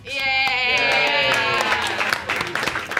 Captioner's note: everyone claps